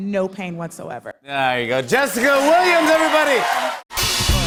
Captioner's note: cheers and applause